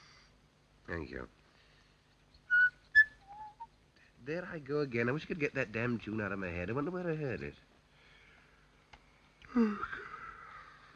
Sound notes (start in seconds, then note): 2.4 whistling; 9.4 yawns